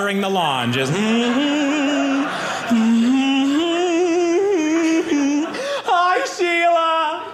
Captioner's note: humming